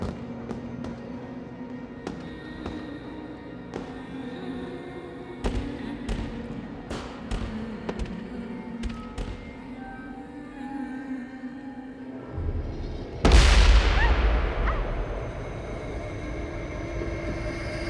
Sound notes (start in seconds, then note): 0.0 musique dramatique; 13.2 forte détonation